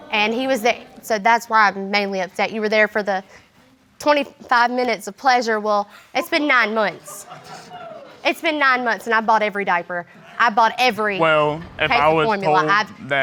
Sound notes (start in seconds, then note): 3.1 audience members laughing